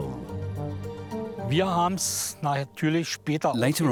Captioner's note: speaking German